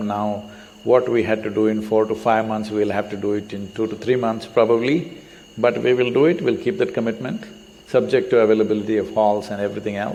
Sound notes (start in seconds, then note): none